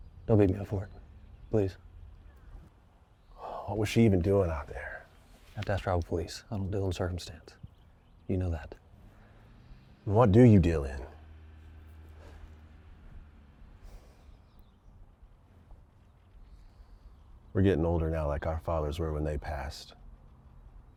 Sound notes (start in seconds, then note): 3.4 sighs; 8.9 engine revving; 12.2 Arawn inhales and exhales